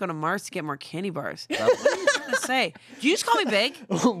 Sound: laughs

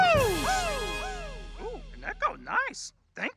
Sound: echoing in background

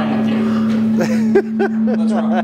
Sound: laughter

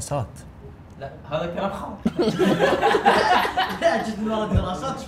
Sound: laughter

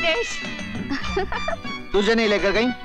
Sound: laughs

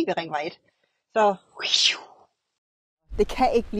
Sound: speed sound

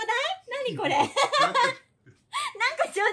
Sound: laughter

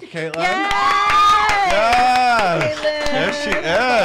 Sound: cheering

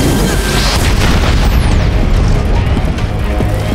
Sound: loud explosion

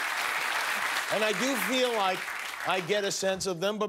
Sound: applause

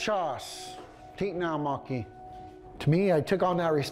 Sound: speaking Yurok

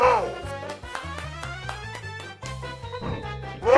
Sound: claps

